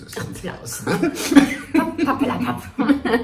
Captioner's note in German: beide lachen